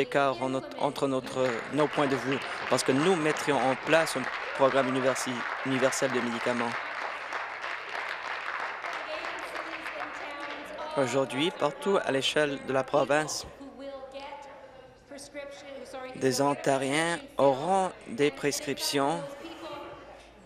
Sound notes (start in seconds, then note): 0.0 applause; 5.8 applause